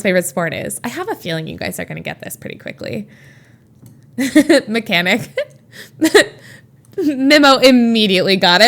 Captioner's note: Emma laughs